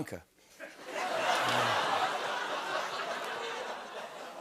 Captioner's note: laughter, ohhs, and applause